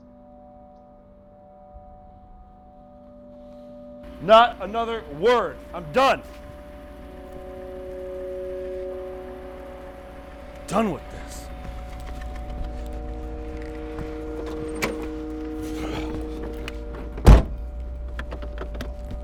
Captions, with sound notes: Not another word. I'm done. Done with this. [door slams]